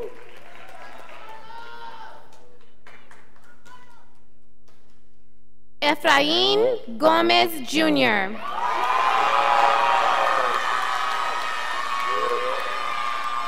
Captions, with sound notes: Efrain Gomez Jr. (scholars applauding)